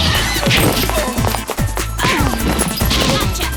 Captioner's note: grunting; thud